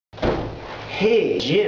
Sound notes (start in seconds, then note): 0.2 stomp